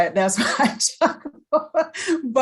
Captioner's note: laughs